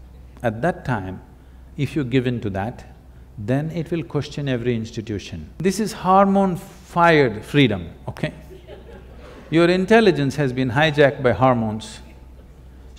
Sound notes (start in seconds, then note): 8.4 laughter